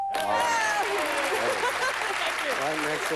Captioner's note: cheering